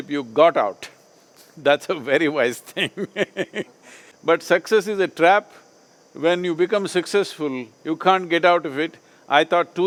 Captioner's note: laughs